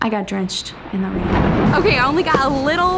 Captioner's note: thunder claps